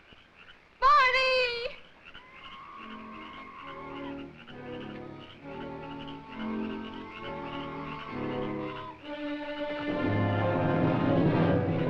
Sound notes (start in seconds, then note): 1.6 bird screeching; 9.1 intense music